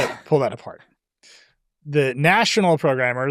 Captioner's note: laughs